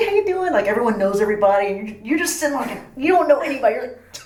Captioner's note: laughs